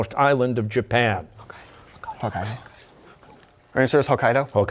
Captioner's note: whispering